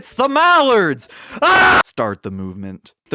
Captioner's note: aggressive screaming